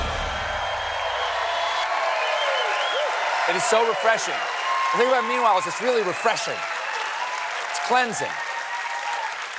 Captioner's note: cheers and applause